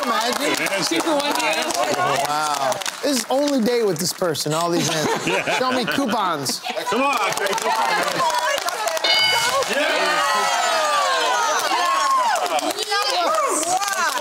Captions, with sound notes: Can you imagine? Two-for-one deal. Wow. Only date with this person and all these answers. Show me coupons. [Cheering] Yes!